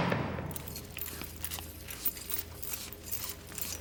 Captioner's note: chains clinking